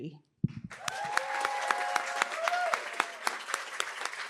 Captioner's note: cheering, applause